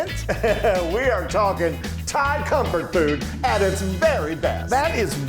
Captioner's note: laugh